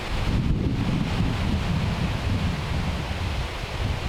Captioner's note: thunder rumbling